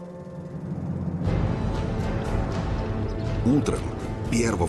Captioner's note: sounds of battle